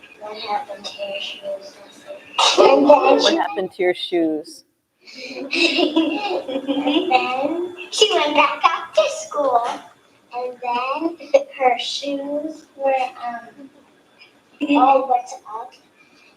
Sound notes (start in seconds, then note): 2.2 laughs; 5.2 laughter